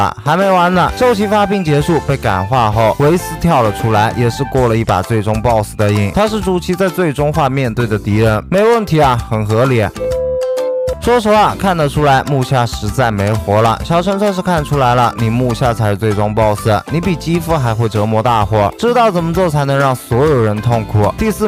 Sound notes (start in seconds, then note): 10.0 beep